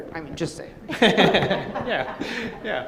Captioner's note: laughing